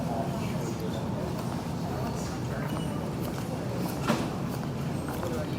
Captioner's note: people continue chattering